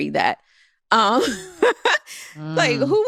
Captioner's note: laughs